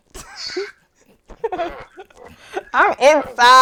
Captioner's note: laughing